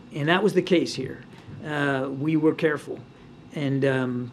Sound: none

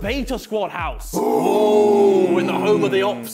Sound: clamouring

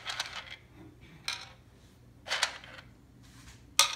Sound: beans clattering

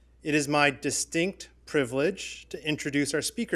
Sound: none

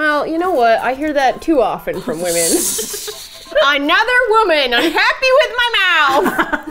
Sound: both laugh; playfully upset; laughs

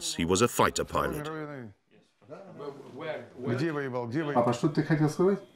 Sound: Russian spoken audio

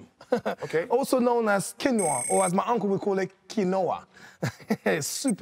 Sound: chuckles; chuckles

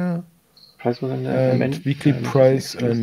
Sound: faintly speaks

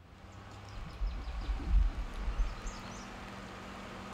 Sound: birds chirping

